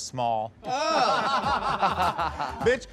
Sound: laughter

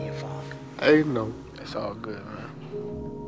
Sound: voice breaking

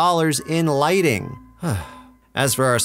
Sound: sigh

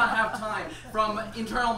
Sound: audience laughs

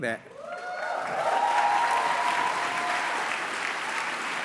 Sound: cheering and applause

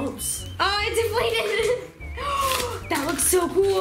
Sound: laughing

